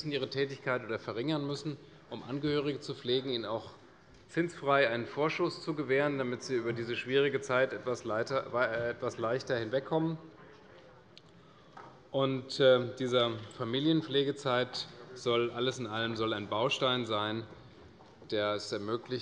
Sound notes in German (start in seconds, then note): none